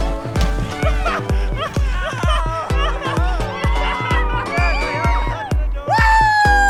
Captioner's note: laughter